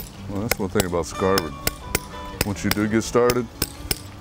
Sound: tapping

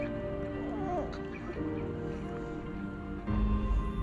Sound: kids crying

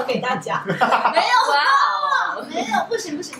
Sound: laughing

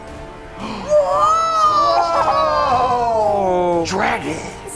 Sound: gasping

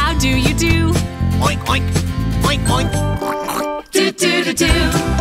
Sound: pig grunting

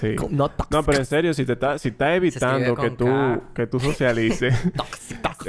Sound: laughs

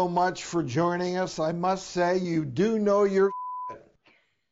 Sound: beep

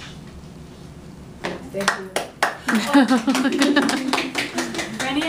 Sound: claps

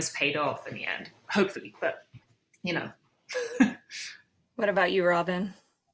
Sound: laughs

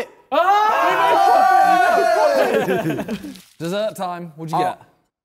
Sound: men shouting

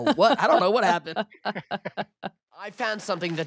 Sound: laughing

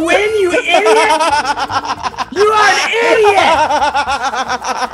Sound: laugh

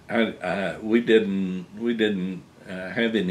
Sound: laughs

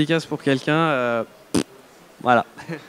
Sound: inhuman farting sound

